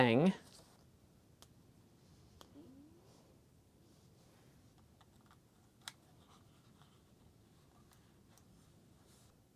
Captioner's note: SD card fumbling sounds